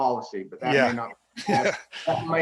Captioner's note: snickers